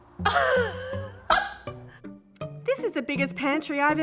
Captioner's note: upbeat music; laughs